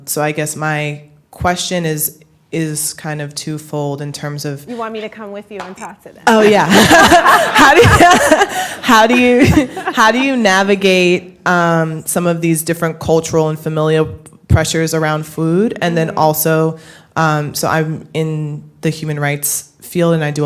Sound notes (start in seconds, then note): 6.4 laughter